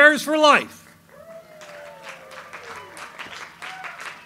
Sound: audience applauds

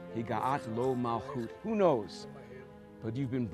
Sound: speaking Hebrew

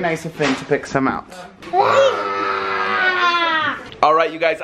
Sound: growls

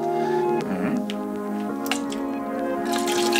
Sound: cleaning solution swishing

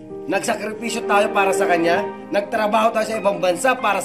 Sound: none

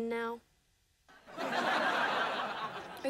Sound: laughing

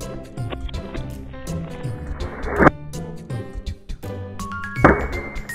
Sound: reverse whoosh; playful music

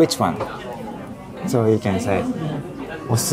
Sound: speaking in Japanese

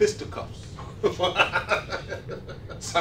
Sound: laughing

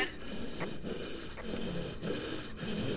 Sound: heavy breathing

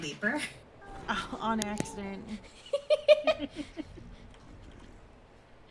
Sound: laughing

